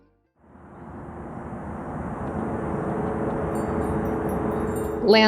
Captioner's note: wind blowing